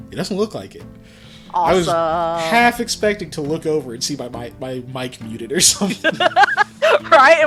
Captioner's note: laughter